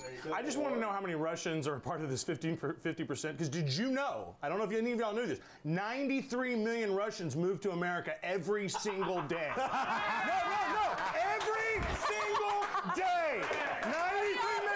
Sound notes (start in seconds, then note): 0.0 bell rings; 8.6 laughter; 13.7 laughter